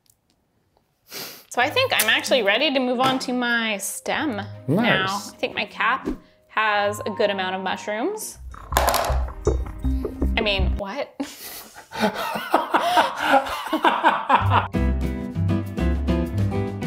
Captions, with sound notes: So I think I'm actually ready to move on to my stem, now. I think my cap has a good amount of mushrooms. I mean, what?! (laughing)